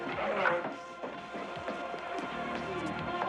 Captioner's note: television playing loudly